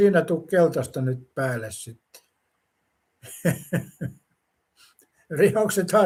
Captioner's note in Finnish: naurua